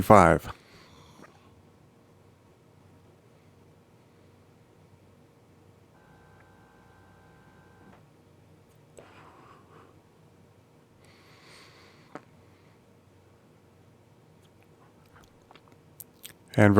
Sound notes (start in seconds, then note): 0.9 silence